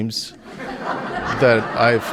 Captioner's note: audience laughing